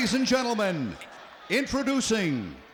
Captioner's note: crowd chatter